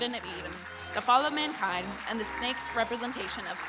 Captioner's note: audience applauding